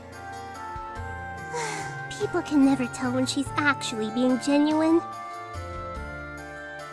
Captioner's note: sigh